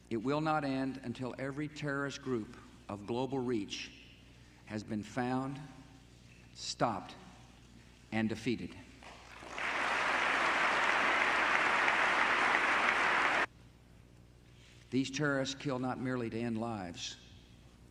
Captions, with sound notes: It will not end until every terrorist group of global reach has been found, stopped, and defeated. (audience applause) These terrorists kill not merely to end lives